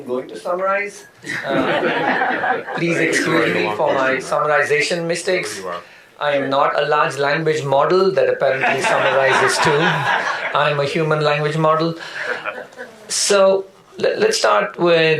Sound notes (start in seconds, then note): 8.5 audience laughter